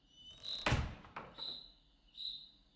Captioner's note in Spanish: Sonido al cerrar la puerta